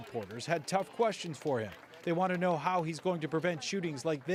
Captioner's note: applause